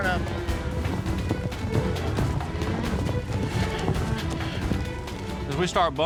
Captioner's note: running hoof beats